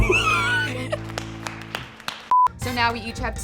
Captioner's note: applauding